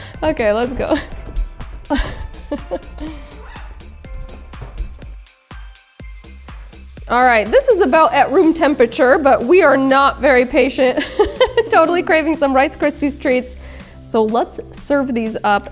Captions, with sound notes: Okay, let's go. (chuckling) (festive music continues) All right. This is about at room temperature, but we are not very patient. (laughing) Totally craving some Rice Krispies Treats. So let's serve these up,